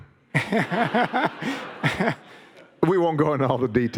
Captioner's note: audience laughing